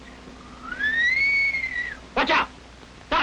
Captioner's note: whistling